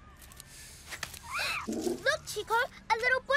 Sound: chitters softly

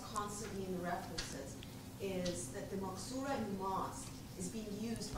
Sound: non-english speech

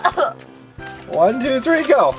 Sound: assistant coughs

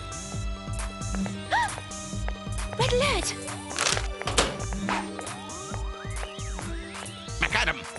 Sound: camera clicking; gasp

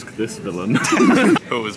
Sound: nervous laughter

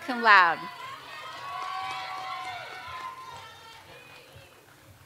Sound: audience cheers and applauds

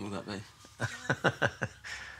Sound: chuckles

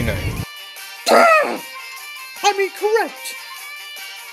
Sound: growls

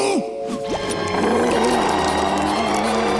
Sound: growling

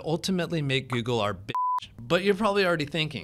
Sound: beep

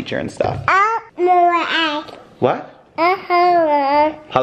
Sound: baby mumble

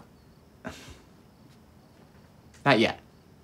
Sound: Tyler sighs

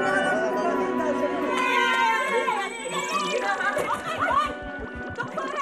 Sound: all cheering

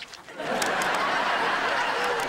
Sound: laughing

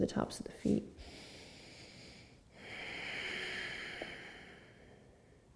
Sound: breathes deeply

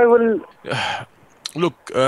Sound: sigh

